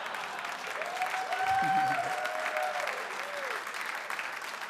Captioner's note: audience laughing; audience cheering and clapping